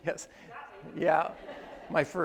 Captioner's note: attendees laugh